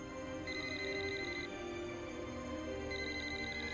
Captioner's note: cellphone rings repeatedly